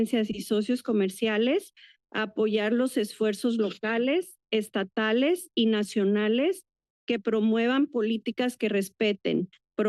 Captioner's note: foreign language